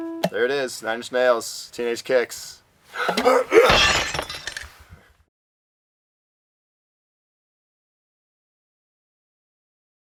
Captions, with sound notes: There it is, Nine Inch Nails, Teenage Kicks. ARGH! [glass smashing]